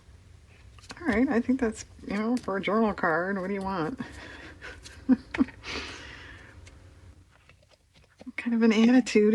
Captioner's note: laughs